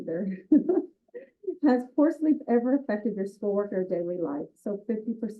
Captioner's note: laugh